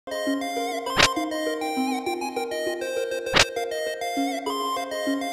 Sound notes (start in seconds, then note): 0.9 teleportation glitch noise; 3.3 teleportation glitch noise